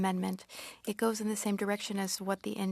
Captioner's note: speaking French